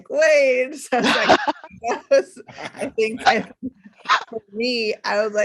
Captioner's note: laughing